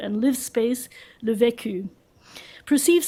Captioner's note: french